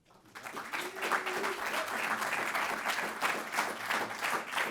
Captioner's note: audience clapping